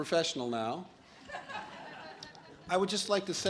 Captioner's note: audience laughs